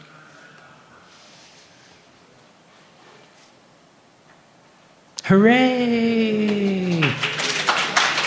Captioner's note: applause